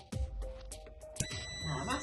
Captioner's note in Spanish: sonido: piiiii